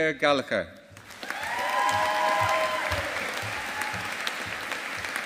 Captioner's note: audience applauding